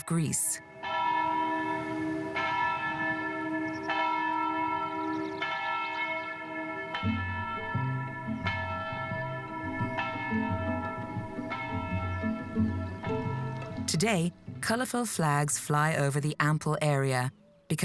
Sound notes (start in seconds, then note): 0.2 bell tolling; 6.4 curious classical music; 6.9 bell tolling